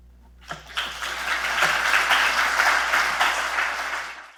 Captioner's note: audience clapping